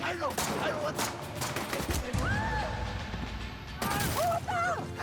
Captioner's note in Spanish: tiroteo